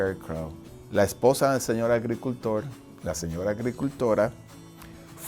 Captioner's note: speaking foreign language